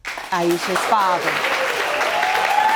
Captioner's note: audience cheering